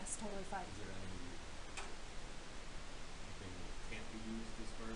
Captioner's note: man speaking